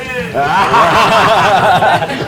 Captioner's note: laughs